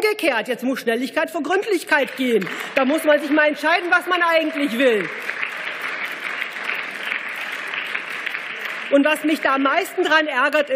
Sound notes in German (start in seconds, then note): 5.1 Beifall